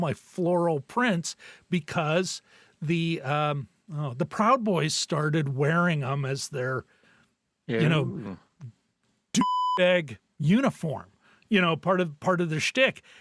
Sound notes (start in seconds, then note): 9.3 beep